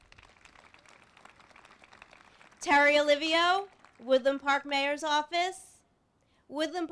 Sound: applause

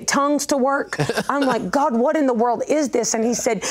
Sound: laughs

